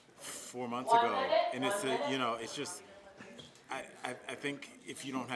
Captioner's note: laughter